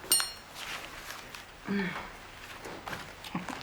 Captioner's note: chuckles